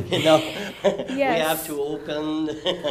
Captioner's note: laugh